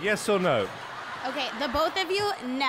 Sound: audience laughter

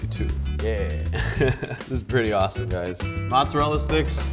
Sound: chuckling

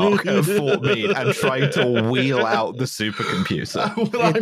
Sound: laughs

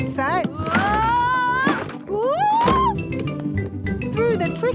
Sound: wood teetering

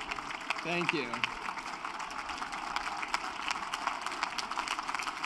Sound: cheering and applause

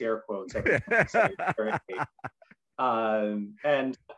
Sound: laughs

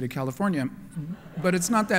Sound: laughter

